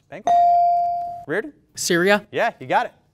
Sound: ding

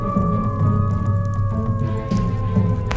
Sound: fox howling

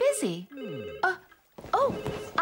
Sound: phone Rings

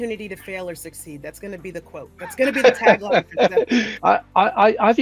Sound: laughs

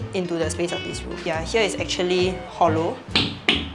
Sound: thumps

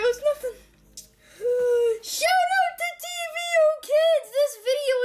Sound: inhaling

